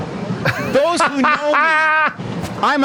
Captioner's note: laughing